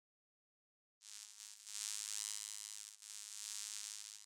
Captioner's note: logo buzzing